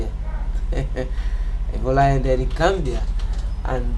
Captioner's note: laughs